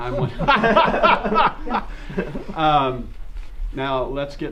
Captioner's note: group laughter